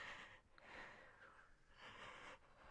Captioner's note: none